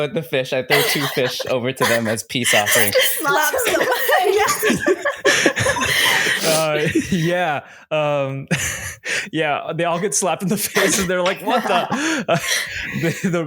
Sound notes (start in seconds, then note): 7.5 laughter